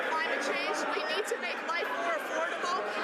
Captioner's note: some Applause